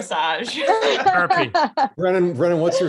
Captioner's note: laughs